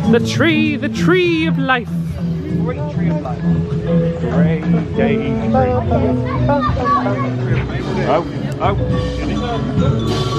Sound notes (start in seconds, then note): 5.1 friends chattering